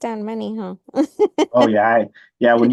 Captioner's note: laughs